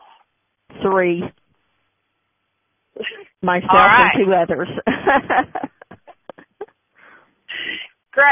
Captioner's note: chuckles